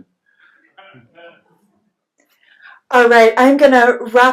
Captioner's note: laughs